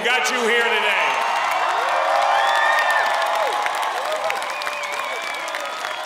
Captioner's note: applause